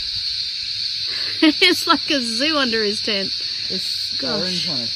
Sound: laughs

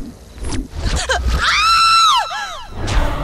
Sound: scream

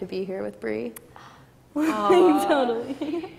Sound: laughs

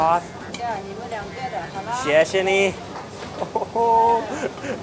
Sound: speaks in Chinese

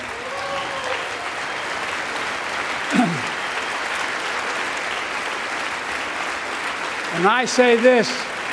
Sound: applause

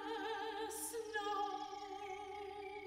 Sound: none

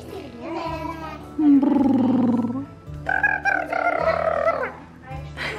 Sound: blows raspberries

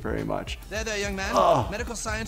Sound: groans

